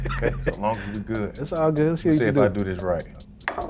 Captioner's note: laughing